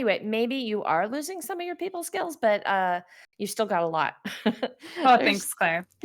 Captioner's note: chuckles